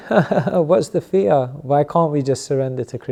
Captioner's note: laughter